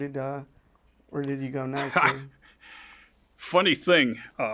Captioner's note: chuckles